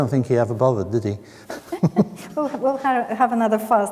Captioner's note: both chuckle